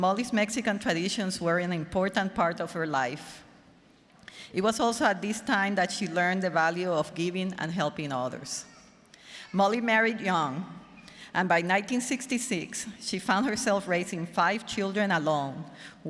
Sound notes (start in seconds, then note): none